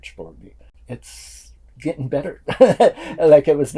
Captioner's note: laughs